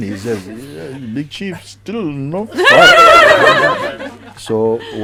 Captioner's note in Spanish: Risas